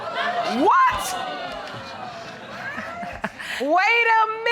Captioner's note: audience exclaiming